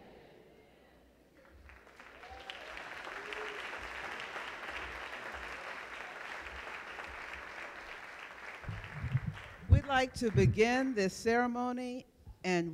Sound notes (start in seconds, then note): 0.0 crowd chanting "amen"; 1.3 applause